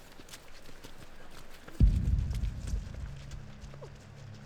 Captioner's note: footsteps